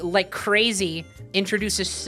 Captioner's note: none